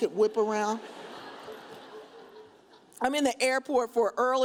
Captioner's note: audience laughs